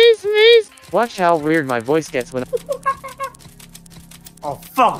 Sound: chimp sounds

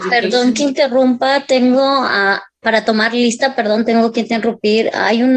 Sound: speaking Spanish

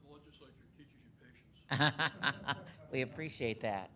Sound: laughing

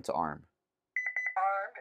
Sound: beep beep

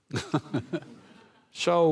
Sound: audience laughing

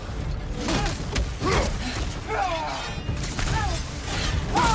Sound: character grunting; character shouting

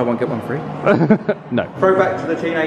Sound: laughs

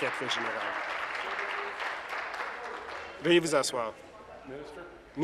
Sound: applause

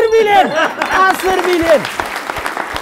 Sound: applause

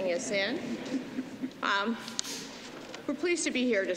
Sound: laughter

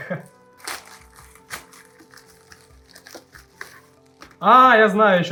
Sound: package sounds

